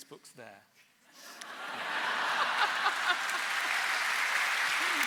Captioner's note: laughter and applause